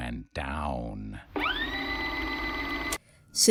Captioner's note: tape rewind noise